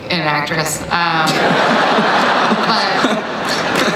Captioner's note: laughing